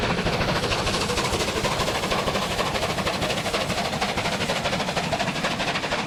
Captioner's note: train passes